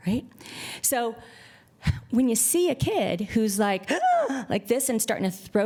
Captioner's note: gasps